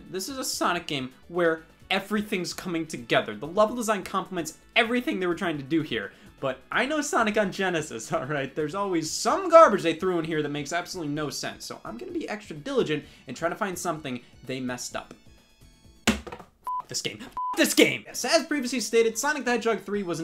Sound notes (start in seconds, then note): 16.1 banging; 17.3 beep